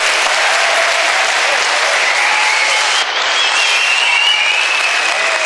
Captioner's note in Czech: potlesk